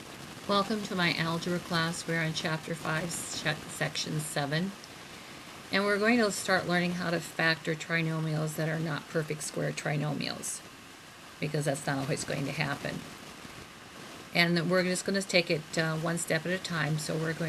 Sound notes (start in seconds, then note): 0.7 voiceover